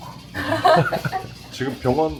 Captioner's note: chuckles